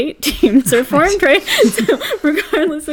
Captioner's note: laugh